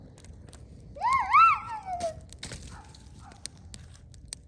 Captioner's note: happy noises; dog barking